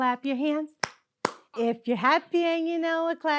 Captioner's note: clapping